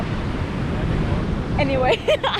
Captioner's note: laughs